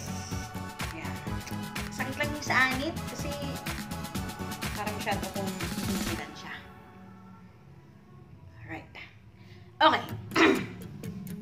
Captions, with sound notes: It's just my scalp is aching. Because I tied so tight. Alright! OK!!! (clear throat)